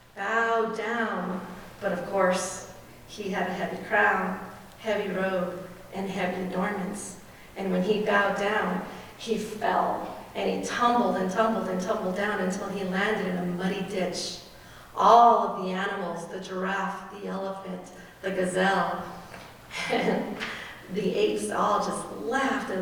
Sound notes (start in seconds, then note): none